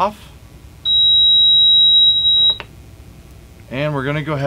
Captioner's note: beeping